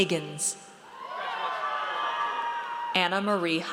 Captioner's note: audience cheers